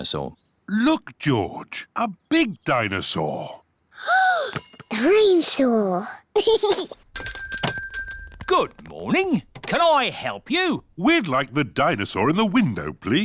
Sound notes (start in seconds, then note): 3.7 gasps; 6.3 giggles; 7.1 bell rings